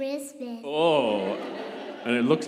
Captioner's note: congregation laughing